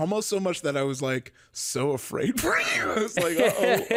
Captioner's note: laughs